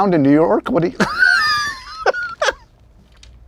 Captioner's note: laughs